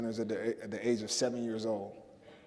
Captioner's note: none